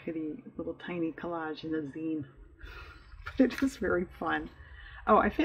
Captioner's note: laughs